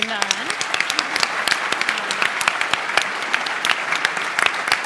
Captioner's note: applause